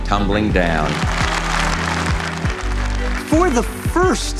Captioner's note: applauding